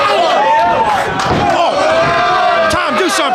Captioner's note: audience shouting